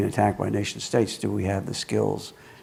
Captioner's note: none